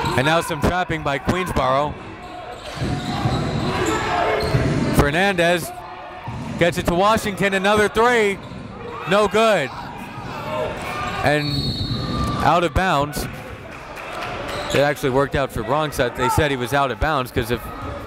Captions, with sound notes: And now some trapping by Queensborough. Fernandez get it to Washington, another three. No good. And out of bounds. (whistle blows) (applauding) That actually worked out for Bronx, they said he was out of bounds